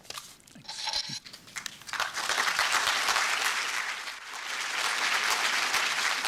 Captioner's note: applause